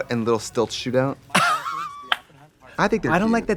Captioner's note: Katya laughs